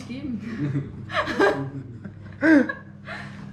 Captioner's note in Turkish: Gülüşmeler